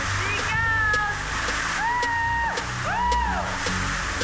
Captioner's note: screams